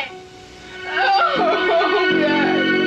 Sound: crying loudly

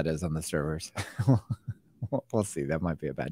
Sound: laughs

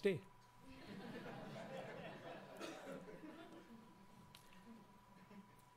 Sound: laughing

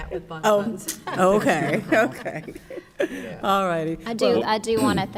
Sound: chuckles

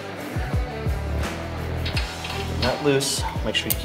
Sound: metal nut rotating

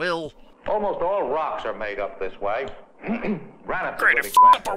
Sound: clears throat

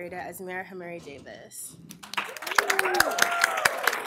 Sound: applause

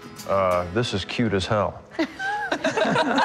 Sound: laughter

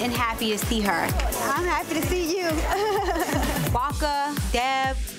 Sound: chuckling

